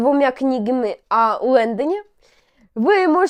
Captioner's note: none